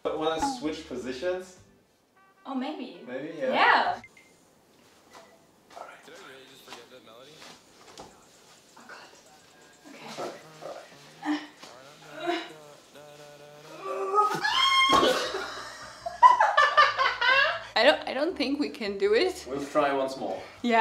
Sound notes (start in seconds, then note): 11.6 grunts and groans; 15.9 both laughing